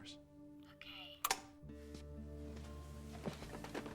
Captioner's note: clicks off